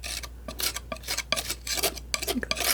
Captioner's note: scratching